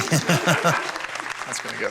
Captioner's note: audience applauding